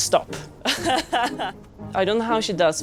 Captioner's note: laughing